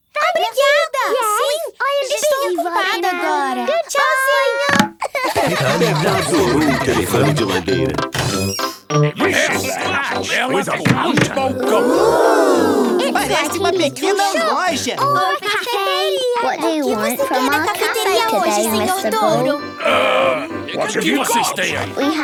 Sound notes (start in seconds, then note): 5.0 laughing